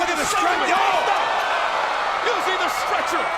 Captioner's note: commentators exclaim